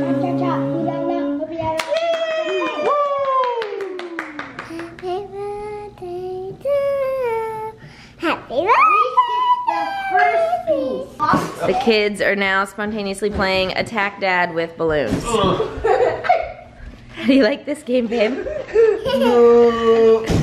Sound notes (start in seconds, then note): 15.4 giggles